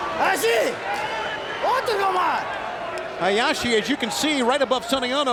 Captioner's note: speaking in foreign language